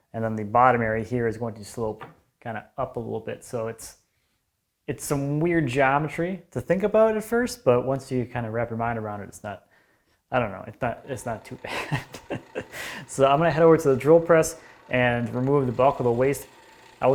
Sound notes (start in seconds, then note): 11.6 chuckling; 12.7 drilling machine quietly whirring